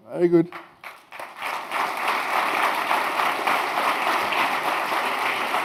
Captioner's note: audience applauds